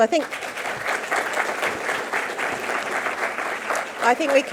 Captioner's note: audience clapping